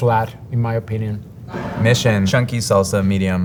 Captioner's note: jar sliding